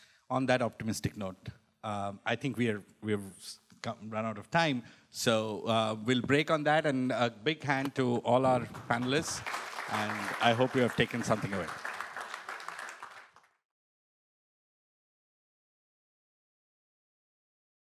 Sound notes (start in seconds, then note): 8.6 applause